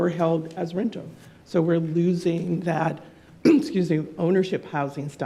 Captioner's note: clears throat